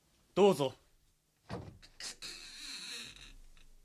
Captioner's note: SFX: door opening